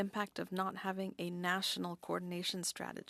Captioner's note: speaking French